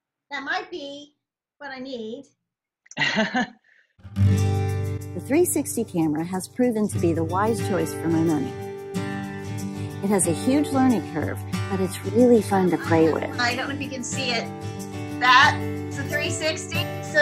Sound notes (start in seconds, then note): 2.9 laughs